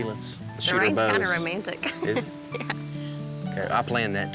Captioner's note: giggles